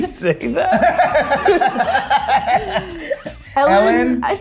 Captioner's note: group laughs